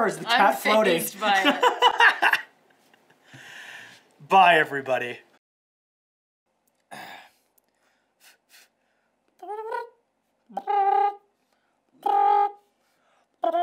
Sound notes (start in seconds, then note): 1.3 laughs; 6.9 clears throat; 8.2 blows towards hands; 10.5 mimics trumpet playing